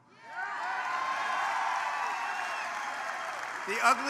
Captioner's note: applause